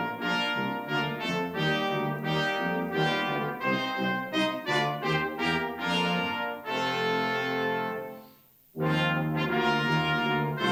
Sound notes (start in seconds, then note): none